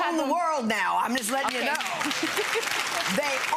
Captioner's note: clapping